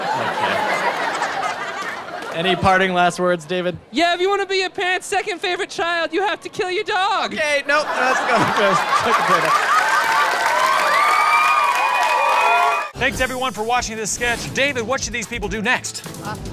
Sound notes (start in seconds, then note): 9.8 cheering